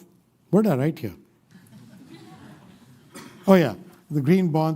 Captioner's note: laughter